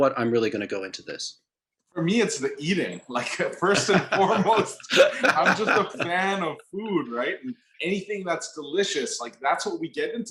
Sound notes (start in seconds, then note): 4.6 laughs